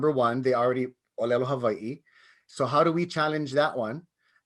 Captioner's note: speaks in native language